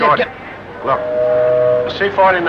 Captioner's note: ship horn